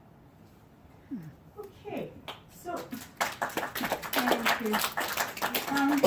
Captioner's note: applause